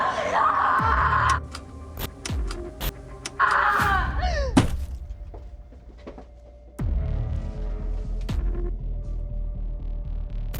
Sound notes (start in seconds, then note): 2.0 button clicking; 3.3 Kira stops screaming; 3.3 Kira screams; 3.7 object thumps; 6.8 suspenseful music